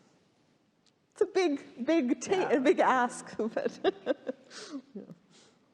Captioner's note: laughing